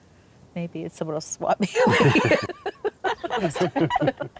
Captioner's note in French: rires de tous